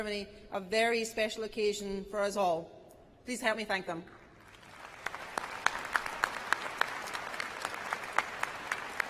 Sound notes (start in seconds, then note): 7.5 applause